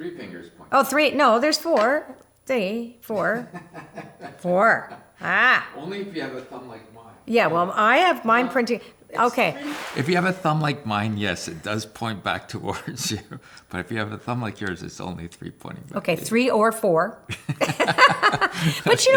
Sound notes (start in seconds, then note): 3.2 laughs; 9.6 splash; 13.4 laughs; 17.2 both laugh